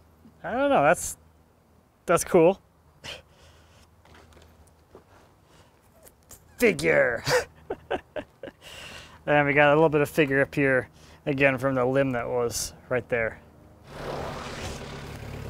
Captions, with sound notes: I don't know. That's cool. Figure. (laughs softly) We got a little bit of figure up here, again, from the limb that was right there.